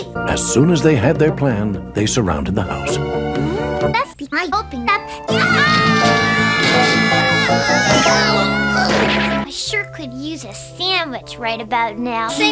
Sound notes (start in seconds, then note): 5.3 all screaming; 7.9 all groaning